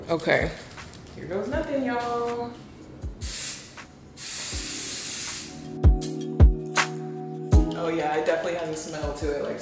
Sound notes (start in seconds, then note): 3.7 pleasant music; 4.1 spray can hissing